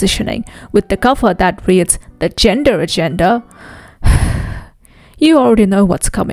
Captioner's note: sighs